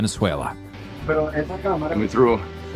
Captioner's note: speaking in foreign language